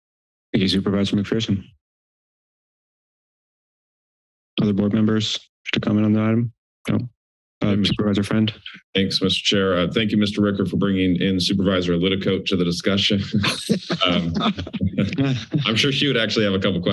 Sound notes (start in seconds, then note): 13.4 chuckles; 13.9 laughs